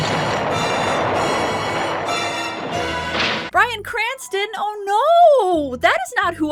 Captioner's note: explosion